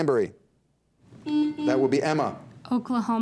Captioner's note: buzzer dings